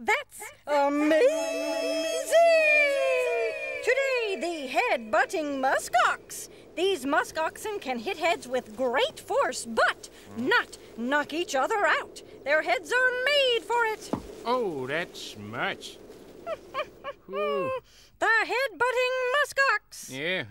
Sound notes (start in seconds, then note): 16.4 chuckling